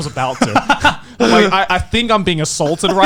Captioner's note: laughing